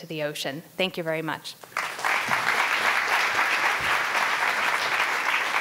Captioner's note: audience applauding